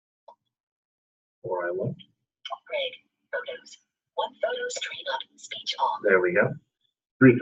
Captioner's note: indecipherable system noises